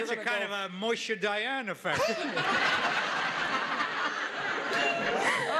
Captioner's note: audience laughing